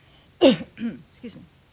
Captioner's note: coughs